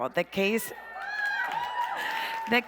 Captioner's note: audience cheers